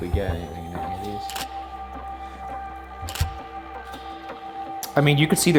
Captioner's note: suspenseful music; camera clicking